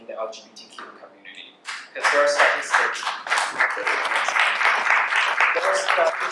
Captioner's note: cheers